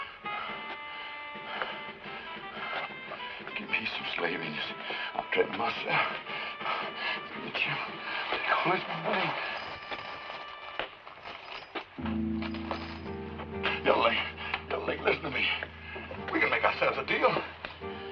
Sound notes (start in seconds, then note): 10.4 footsteps approach